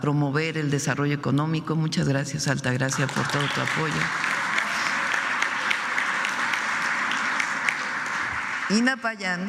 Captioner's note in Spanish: aplausos